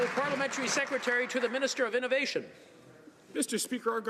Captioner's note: some Applause